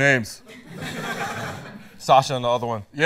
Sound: laughter

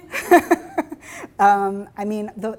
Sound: laughing

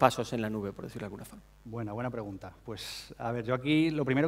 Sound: speaking spanish

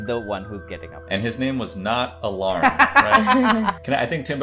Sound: laughter

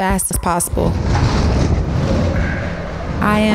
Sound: whooshing; rustling

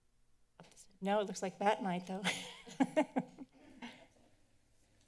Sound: laughs

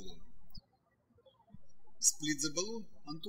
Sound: birds chirping

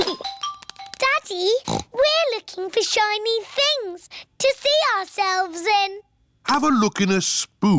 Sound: giggles; snorts

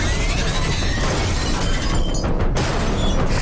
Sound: screeching; shattering; clanking

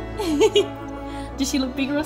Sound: laughs

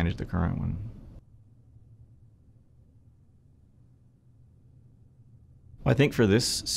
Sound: silence

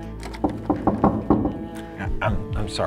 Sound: knocking

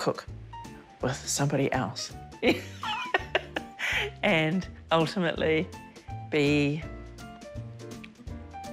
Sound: chuckles

